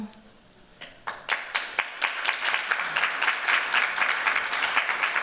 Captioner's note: applause